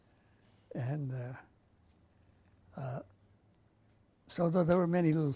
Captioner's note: pauses for 3 seconds